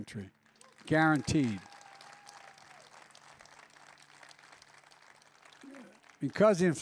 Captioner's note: applause